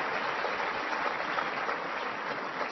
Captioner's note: applause